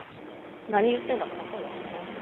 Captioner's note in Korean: 뒤에서 얘기중